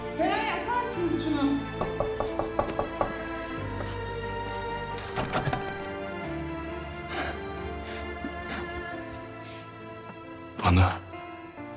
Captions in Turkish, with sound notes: Feraye açar mısınız şunu? [Kapı Çalıyor] Bana...